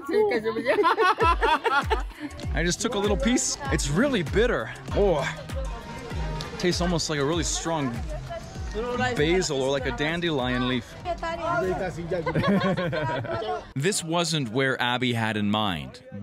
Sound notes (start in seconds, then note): 0.0 men laughing; 0.3 man speaking foreign language and laughing; 11.4 speaking in foreign language; 12.2 both laughing